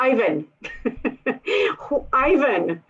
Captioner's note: laughter